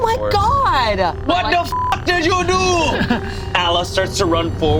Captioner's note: beep